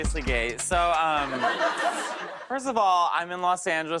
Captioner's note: laughs